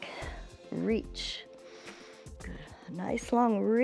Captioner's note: inhales